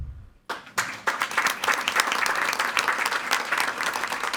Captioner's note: all applauding